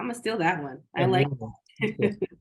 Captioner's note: laughs